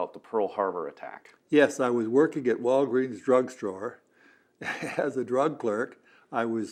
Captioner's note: laughs